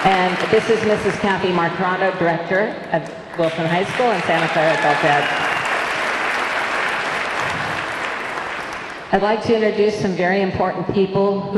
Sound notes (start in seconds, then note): 5.2 audience cheering; 5.2 audience clapping